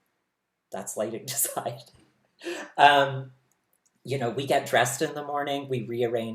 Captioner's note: laughs